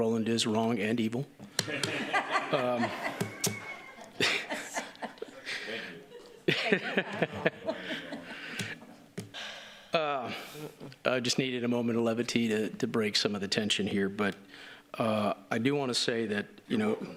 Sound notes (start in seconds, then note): 6.7 laughter